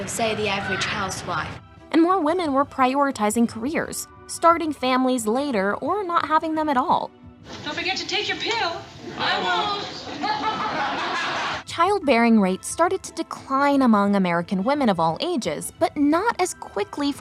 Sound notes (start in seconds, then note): 11.6 audience laughs